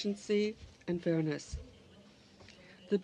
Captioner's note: speaking french